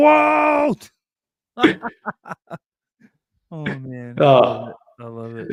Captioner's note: laughs